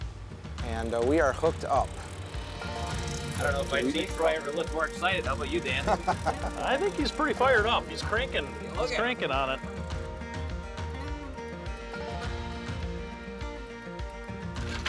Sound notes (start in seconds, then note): 3.4 upbeat country music; 5.6 laughing; 10.6 upbeat country music